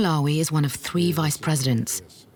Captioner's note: none